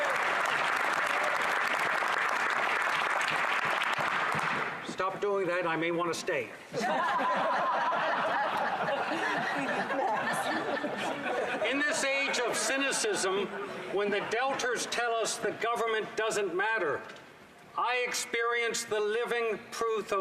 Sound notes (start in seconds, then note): 0.0 applause; 9.7 laughter